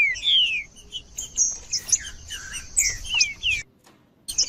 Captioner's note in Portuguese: trinca ferro cantando